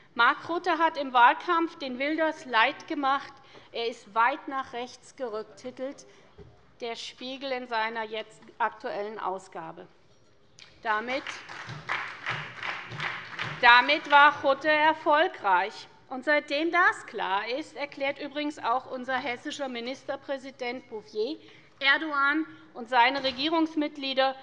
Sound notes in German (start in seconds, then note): 11.0 Beifall bei der SPD